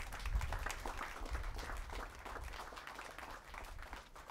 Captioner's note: audience claps